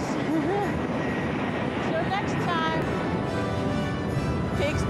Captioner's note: laughing